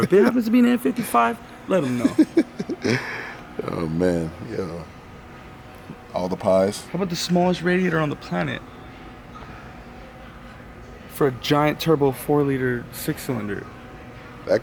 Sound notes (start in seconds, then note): 1.8 laughing